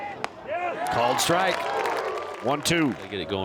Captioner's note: fans applaud